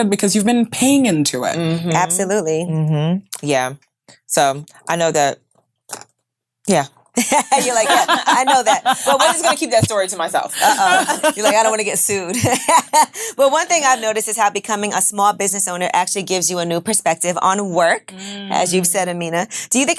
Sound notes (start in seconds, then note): 7.2 all laughing; 10.4 laughs